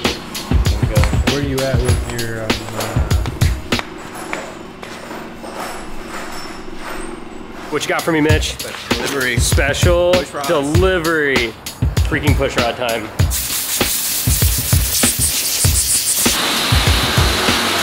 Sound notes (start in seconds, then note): 13.6 air whooshing